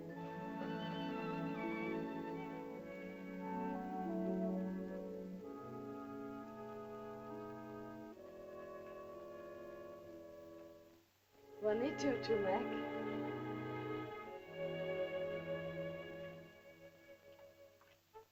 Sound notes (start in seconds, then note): 0.0 soft music; 11.5 Loana speaks to Tumak in caveman language; 14.5 soft music